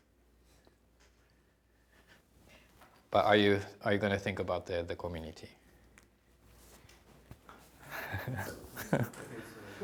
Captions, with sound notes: but are you gonna think about the community? (chuckling)